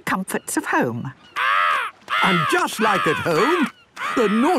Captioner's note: seagull cries